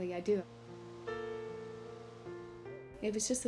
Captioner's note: none